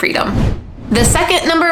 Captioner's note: digital whooshing